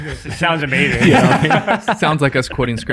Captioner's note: friars laughing